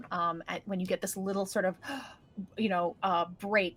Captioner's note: inhales sharply